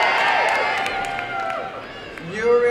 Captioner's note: applause and cheering